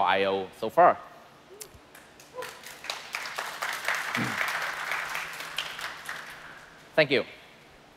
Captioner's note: applause